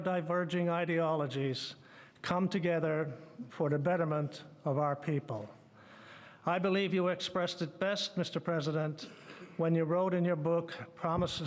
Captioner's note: speaking French